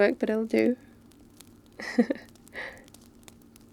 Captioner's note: laughs